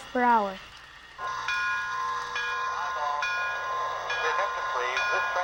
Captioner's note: bell clanging; voiceover